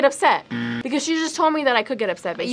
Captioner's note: buzzer rings